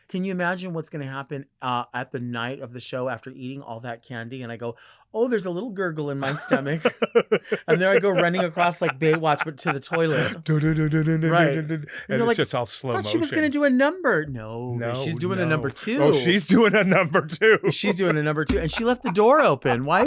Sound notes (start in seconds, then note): 6.2 laughing